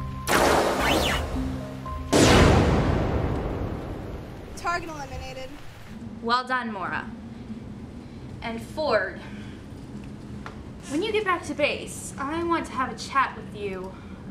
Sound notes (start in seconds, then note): 0.1 blasterfire; 2.1 cannonfire